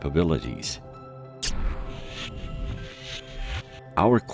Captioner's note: craft whooshes; craft whirring